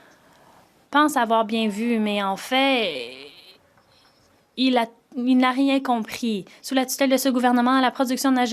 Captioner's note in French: voix de l'interprète